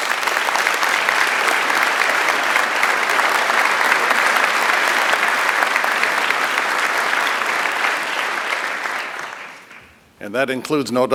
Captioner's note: applause